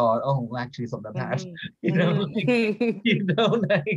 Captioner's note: laughs